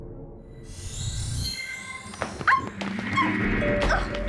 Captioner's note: yelping